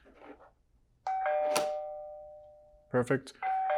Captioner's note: dorrbell rings